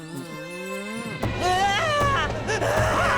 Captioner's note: screaming